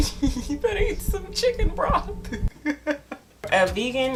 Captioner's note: laughing